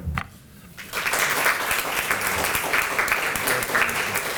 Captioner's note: applause